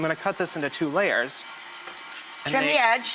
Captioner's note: whirring noise